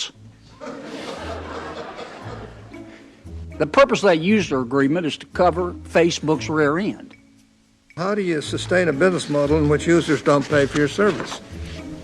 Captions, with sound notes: [audience laughing] The purpose of that user agreement is to cover Facebook's rear end. - How do you sustain a business model in which users don't pay for your service?